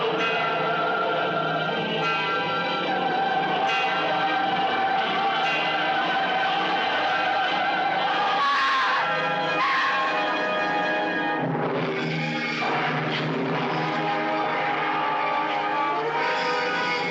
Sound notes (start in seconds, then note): 8.6 screaming